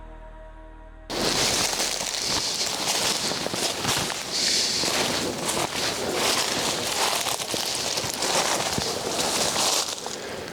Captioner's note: steps through branches